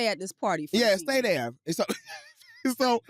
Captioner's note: chuckles